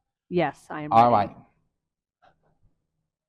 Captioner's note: none